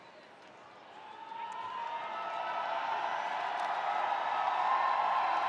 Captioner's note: spectators cheering